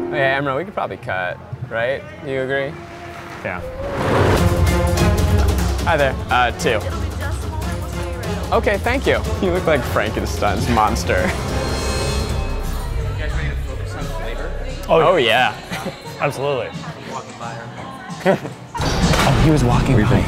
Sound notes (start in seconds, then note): 4.2 intense music; 11.0 chuckles